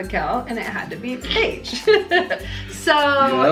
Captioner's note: laughs